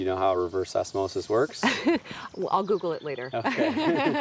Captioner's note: laughing; laughs